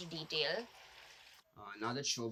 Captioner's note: water sloshing